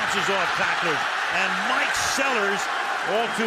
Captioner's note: cheering